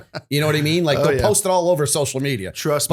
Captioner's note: laughter